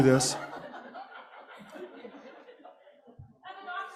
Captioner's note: laughter